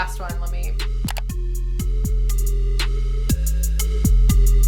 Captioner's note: mouse clicks; mysterious music